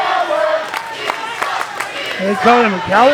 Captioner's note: audience claps rhythmically